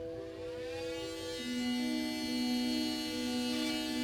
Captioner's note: drill whirling